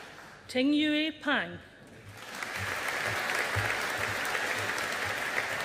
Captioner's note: audience applauding